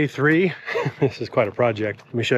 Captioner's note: speaker chuckles